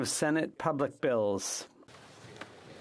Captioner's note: speaking French